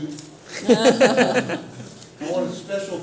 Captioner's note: laughter